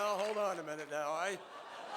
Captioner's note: laughter